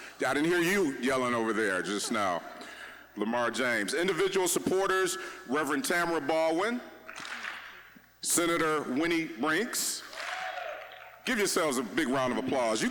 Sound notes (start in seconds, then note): 7.1 audience clapping once; 10.1 audience clapping once